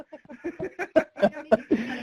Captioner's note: laughing